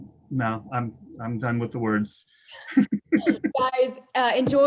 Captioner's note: both laughing